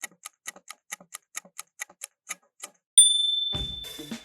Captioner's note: timer ticking; ding!